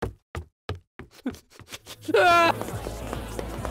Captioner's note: sobbing